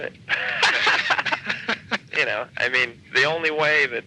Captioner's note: laughing